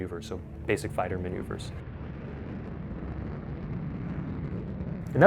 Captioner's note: airplane whooshing